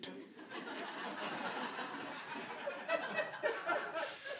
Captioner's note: laughter